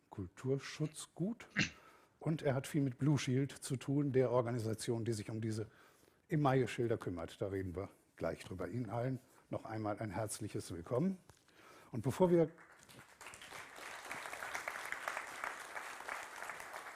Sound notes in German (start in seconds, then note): 12.2 Applaus